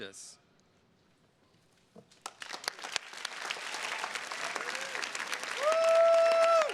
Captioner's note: attendees cheers and claps